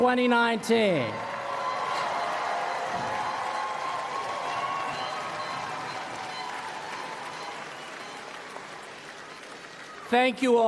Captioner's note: applause